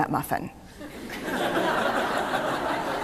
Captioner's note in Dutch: Gelach